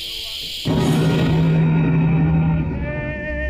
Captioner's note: Clint thudding